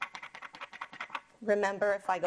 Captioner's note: index card flapping